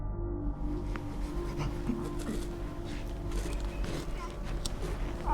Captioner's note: panting and grunting